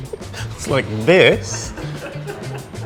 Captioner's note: laughing